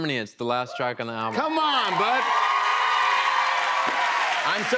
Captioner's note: cheers and applause